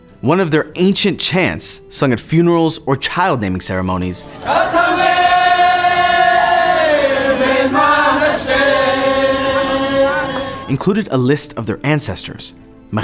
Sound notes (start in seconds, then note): 4.2 people chanting